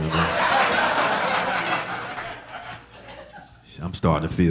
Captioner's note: audience laughing